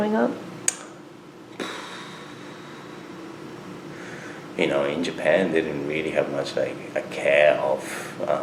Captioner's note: blows out air